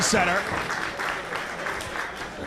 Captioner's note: applause